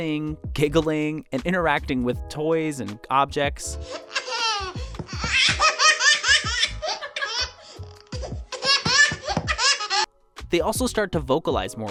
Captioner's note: giggles uncontrollably